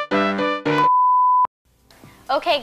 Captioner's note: bars and tone